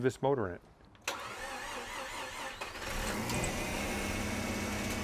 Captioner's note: car engine roaring